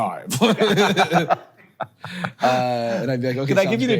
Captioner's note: both chuckle